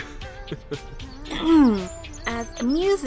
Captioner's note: cute Kyo chuckle; clearing Throat